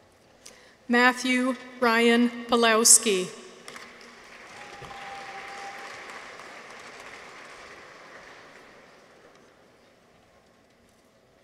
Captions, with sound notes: Matthew Ryan Pawlowski. -(audience applauds) -(people cheer)